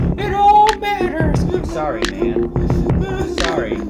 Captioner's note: crying